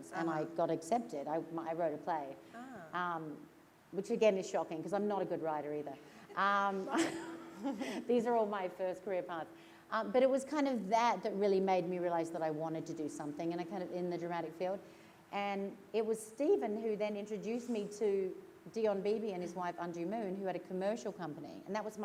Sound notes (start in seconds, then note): 6.8 laughter